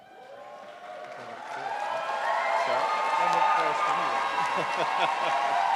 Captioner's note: audience cheering